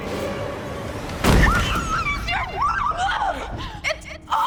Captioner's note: woman screams